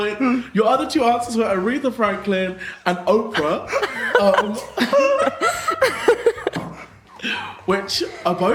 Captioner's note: laughing